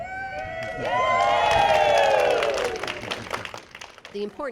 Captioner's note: applause